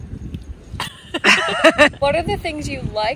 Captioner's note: both laughing